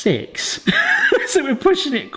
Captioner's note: laughing